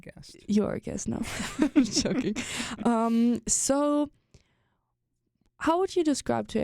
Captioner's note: both laugh